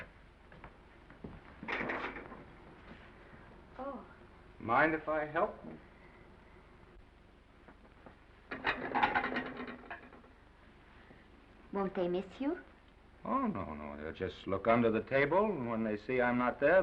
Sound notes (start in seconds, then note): 8.4 plates clattering